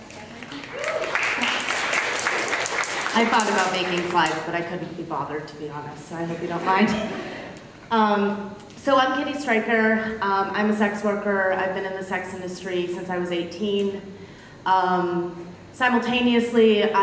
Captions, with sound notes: (audience claps) I thought about making slides, but I couldn't be bothered, to be honest, so I hope you don't mind. (audience laughs) So, I'm Kitty Stryker, I'm a sex worker, I've been in the sex industry since I was 18, simultaneously I went to university,